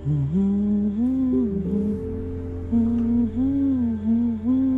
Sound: humming continues

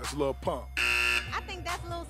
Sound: buzzes

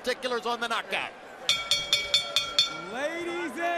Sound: bell dinging

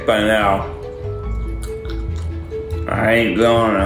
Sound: chewing

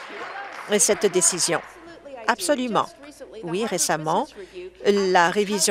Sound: applause

